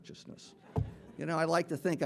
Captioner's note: audience laughing